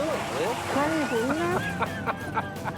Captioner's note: laughter